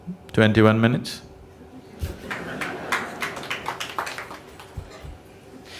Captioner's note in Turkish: gülüşler